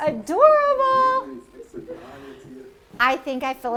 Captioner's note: crowd chattering